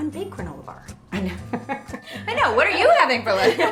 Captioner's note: laughing